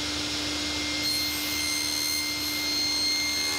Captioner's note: machine squeaking